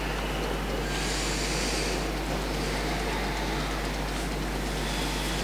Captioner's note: breathes deeply